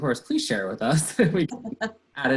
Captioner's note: laughter